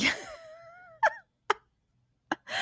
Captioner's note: laughs